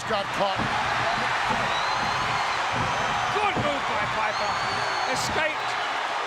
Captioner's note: audience cheering